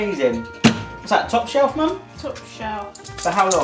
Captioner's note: oven door thuds